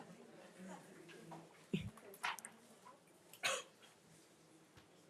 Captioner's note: attendees chattering